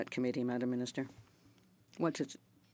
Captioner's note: speaking French